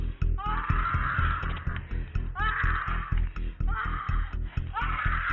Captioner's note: woman screaming